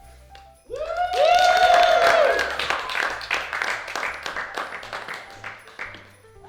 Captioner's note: audience cheering and applauding